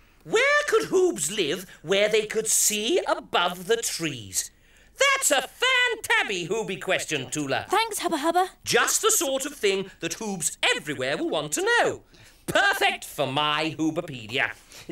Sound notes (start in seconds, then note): none